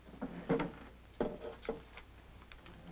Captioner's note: drawer Opening